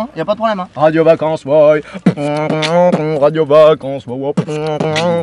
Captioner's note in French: human beatbox